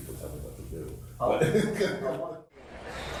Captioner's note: laughs; crowd chattering